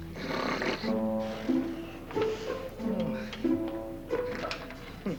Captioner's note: Ronflements; Petits gémissements